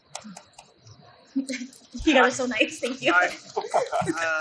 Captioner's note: light applauding; laughs